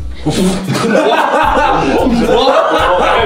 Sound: laughing

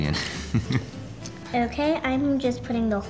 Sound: laughs

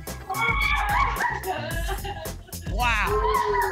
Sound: laughter

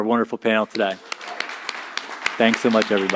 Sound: audience applauds

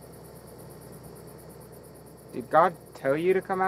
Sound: insects chirping

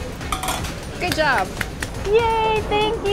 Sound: clapping

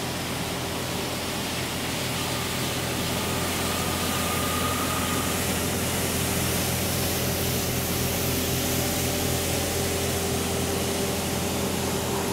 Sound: large vehicle approaches and departs

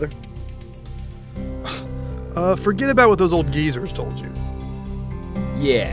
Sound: scoffs

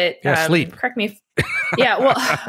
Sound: laughs

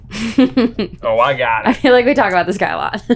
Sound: laughing

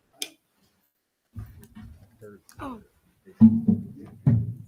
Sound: speaking faintly off mic

